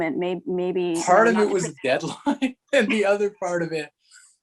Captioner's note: chuckles